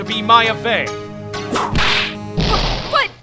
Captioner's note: whip crack!